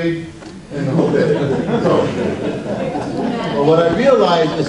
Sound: audience laughs

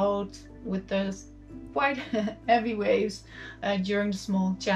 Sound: chuckles

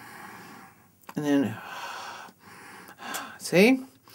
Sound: sounds of breathing

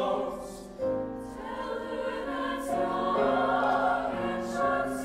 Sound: high voices

